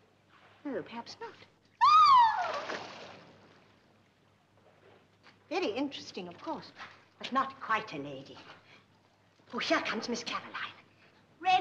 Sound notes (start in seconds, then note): 1.8 screams